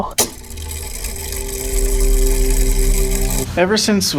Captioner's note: mechanism whirring